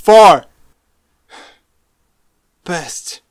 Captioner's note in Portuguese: suspiro